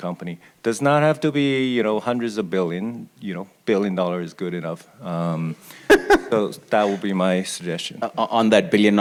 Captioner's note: laughs